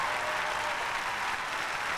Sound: cheers and applause

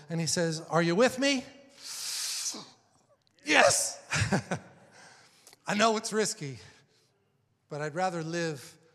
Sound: inhales

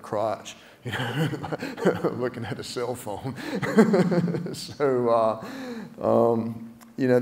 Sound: laugh

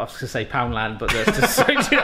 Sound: both laugh

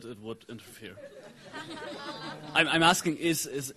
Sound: audience laughing

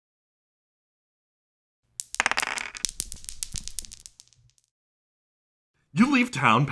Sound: sound of dice rolling

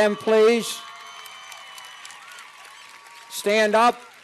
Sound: cheers and applause

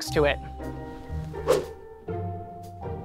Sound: air whooshes; light orchestral music

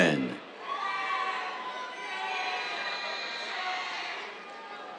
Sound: cheers

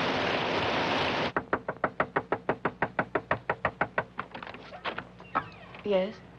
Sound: policeman knocking on door; door hinge creaking

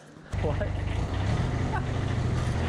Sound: laughs

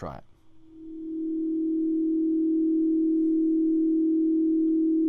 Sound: sine wave quivering

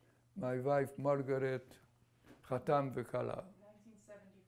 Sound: non-english

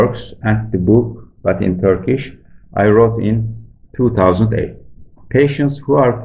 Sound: in Turkish

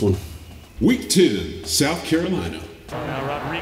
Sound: automated Voiceover

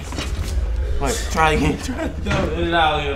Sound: voiceover

